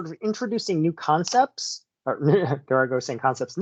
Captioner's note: laughs